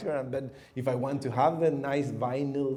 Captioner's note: none